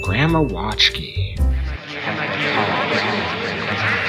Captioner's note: flashback noises